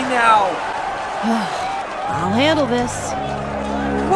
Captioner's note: sigh